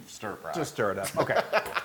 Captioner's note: laugh